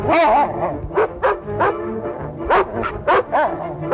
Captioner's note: barking